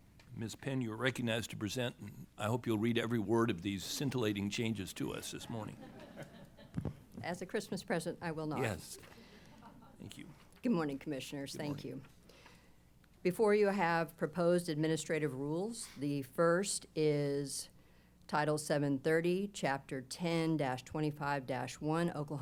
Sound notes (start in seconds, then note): 5.5 laughter